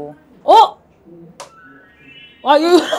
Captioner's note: twinkle